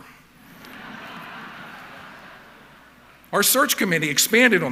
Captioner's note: audience laughing